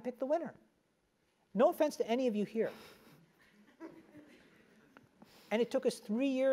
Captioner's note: laugh